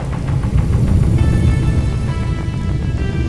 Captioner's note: a high-pitched whirring and a deep humming